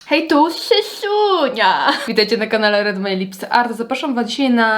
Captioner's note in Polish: śmiech